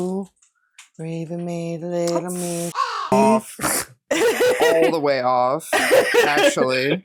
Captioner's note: caw